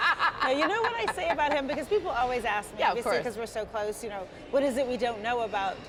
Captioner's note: laughter